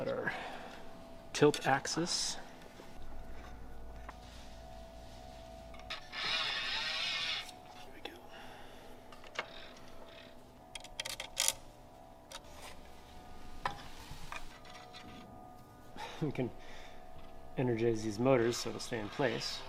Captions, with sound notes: - We've got our Tilt axis. (winding sound) - There we go. We can energize these motors so they stay in place.